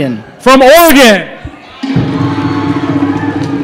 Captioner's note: applause